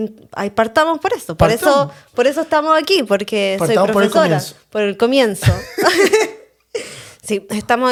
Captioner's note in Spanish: risas